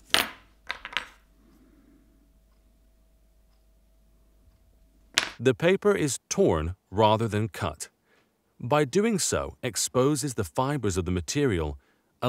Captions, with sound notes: (knife thuds) (tweezers thuds) The paper is torn rather than cut. By doing so exposes the fibers of the material,